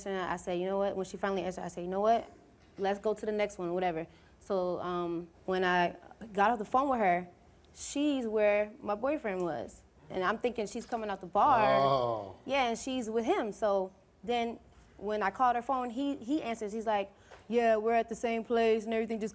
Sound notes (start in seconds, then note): none